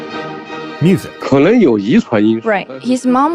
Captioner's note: speaking Mandarin Chinese